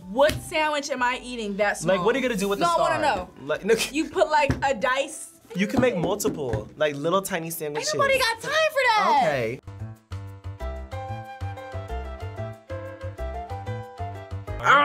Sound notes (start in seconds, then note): 3.4 laughs; 10.1 playful music; 14.6 roars